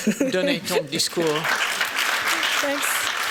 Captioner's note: applause; french